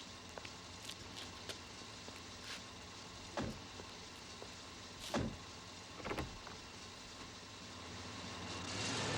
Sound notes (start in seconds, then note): 3.3 door slamming